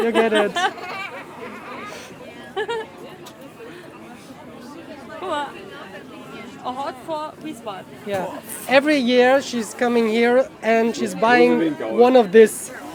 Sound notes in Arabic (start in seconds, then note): 2.8 يضحك